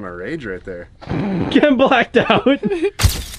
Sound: laughing

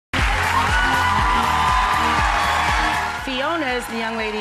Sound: cheering

